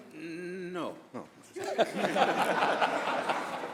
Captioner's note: laughter